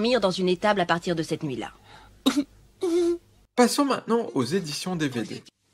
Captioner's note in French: Il sanglote